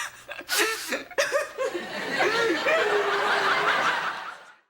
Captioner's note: wailing